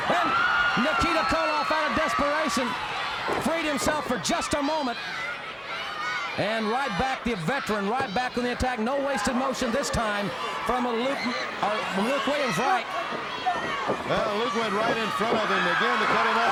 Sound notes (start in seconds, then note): 13.2 crowd cheering